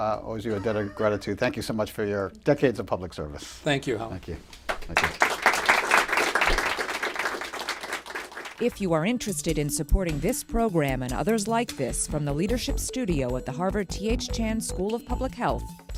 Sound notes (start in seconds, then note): 4.6 applause